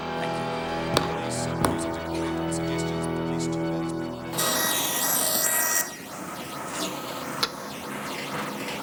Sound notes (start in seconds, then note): 0.0 dramatic music; 4.5 power tools whirring